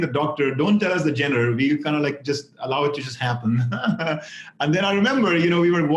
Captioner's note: laughs